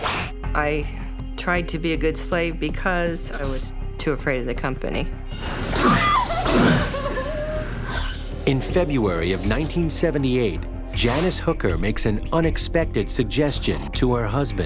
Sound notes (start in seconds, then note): 5.8 whip cracks, woman screams